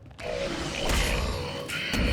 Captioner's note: growling